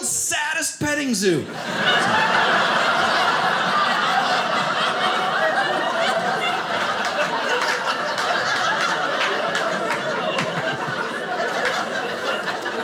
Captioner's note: audience laughing